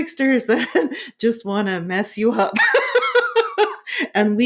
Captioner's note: laughing